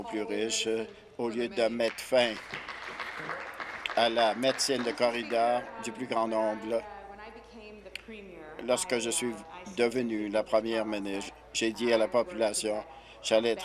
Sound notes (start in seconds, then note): 4.7 applause